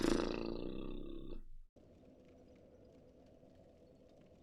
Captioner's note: fart noise